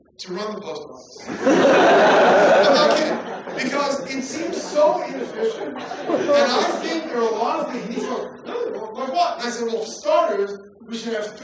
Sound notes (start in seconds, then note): 1.3 laughter